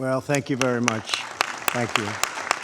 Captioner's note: applause